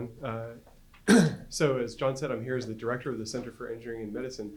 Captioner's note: cough